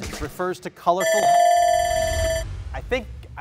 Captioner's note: bell rings